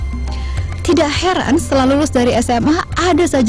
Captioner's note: non-english speech